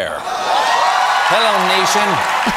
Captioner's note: audience applause